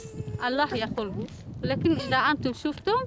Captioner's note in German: Windgeräusche